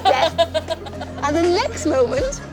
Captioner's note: laughing